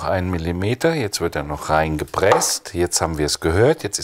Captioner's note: slap